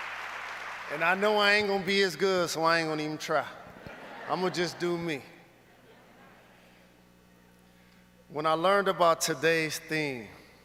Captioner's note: cheers and applause